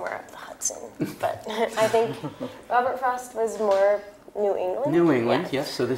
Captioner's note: laugh